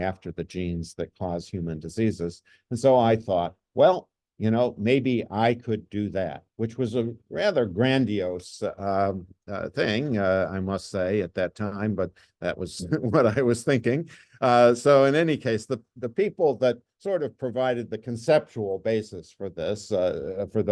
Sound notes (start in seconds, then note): 12.7 chuckles